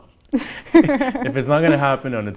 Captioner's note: laughing